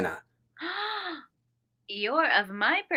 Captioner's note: Alex gasps